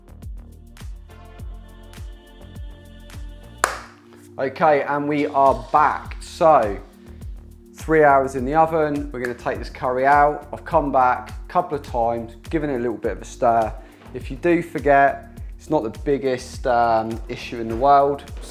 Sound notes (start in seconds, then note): 0.2 upbeat music; 3.6 claps hands